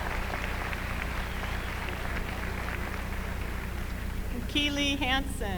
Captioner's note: applause